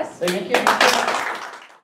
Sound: audience applauding

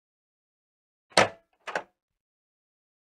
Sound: sound of microwave door

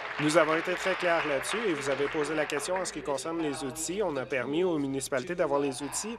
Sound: applause

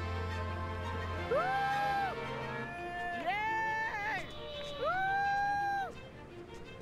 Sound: cheering

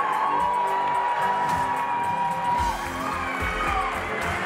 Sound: group cheering

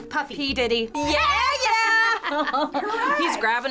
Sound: both cheering

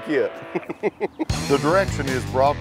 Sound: chuckles

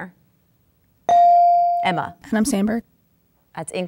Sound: dinging

